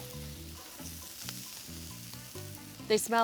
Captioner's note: grill sizzling